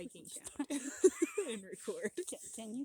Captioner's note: laughter